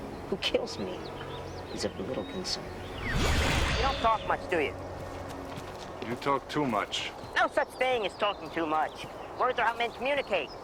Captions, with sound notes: Who kills me is of little concern. (ethereal woosh) - You don't talk much, do you? (footsteps) - You talk too much. - Ah, no such thing as talking too much. Words are how men communicate.